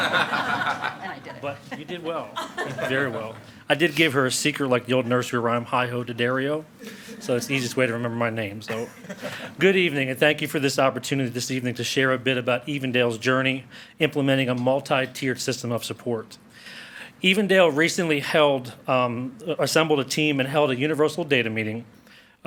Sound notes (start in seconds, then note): 0.0 board members and attendees laugh; 8.7 board members and attendees chuckle